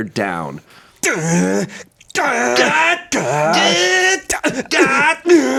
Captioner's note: grunt